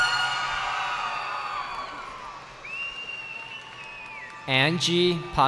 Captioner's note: cheering